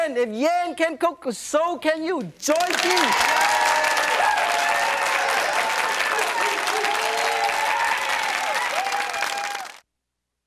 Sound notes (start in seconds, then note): 2.5 crowd cheering